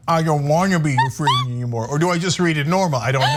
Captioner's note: laugh